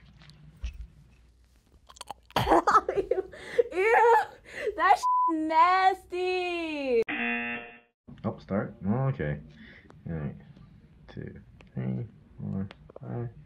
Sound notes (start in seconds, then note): 1.9 gagging; 7.1 buzzer